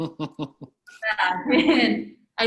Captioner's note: laughs